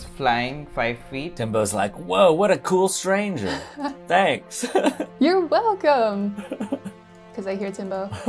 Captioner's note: laughs